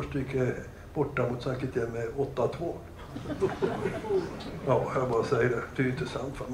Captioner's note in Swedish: Skratt